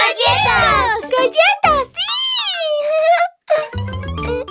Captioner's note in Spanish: Risas